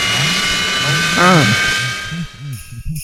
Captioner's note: his voice gets muffled as a missile flies past; Scratch Cat Grunts